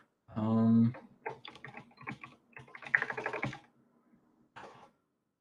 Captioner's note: keyboard clacking